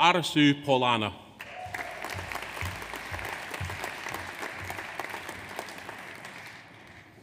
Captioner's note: audience applauds; audience cheers